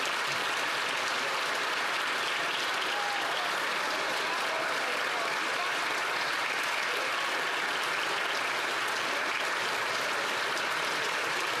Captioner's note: applause